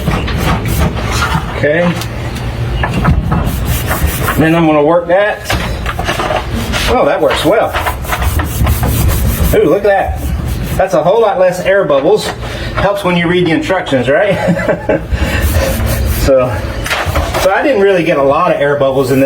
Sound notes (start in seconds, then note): 14.2 laughing